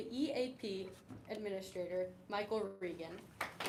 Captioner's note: applause